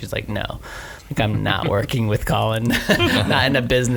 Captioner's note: laughs